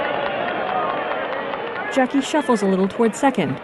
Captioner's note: whistling